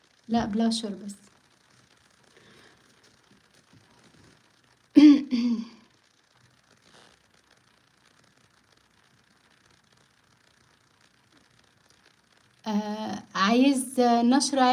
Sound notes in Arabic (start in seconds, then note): 5.0 تنحنُح